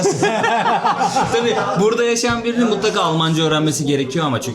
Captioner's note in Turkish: kahkaha